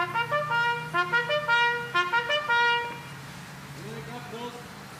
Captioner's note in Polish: Sygnał "Baczność"